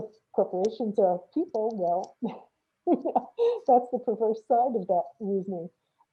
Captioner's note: laughs